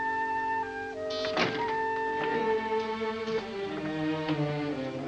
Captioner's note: ominous music; buzzing sound; door opens; ominous music